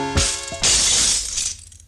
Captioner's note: sound of braking second window